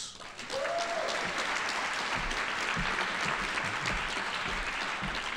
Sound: audience applauding

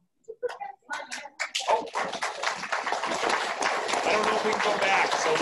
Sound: audience clapping

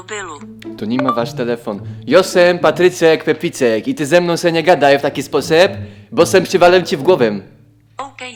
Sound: Czech accent

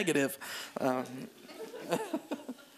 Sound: laughter

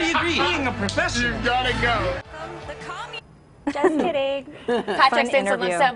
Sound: laughter

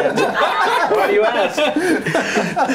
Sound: laughing

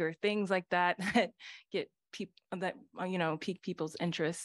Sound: laughter

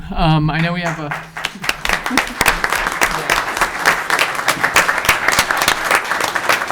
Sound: members of council clapping

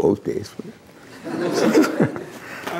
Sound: laughter

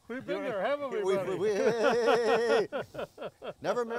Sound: yells; laughs

